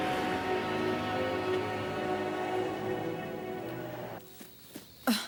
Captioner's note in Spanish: motor do carro acelerando